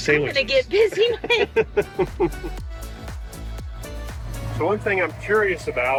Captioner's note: pair laughs